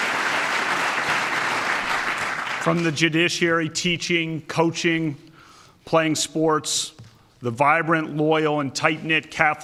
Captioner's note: applause